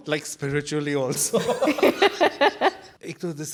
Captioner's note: all laugh